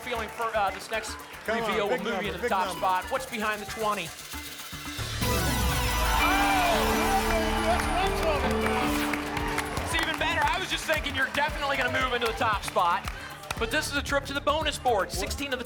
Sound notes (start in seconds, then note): 6.0 applause and cheering